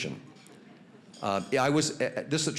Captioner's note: audience chuckling